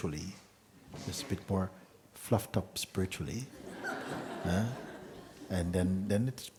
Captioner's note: laughter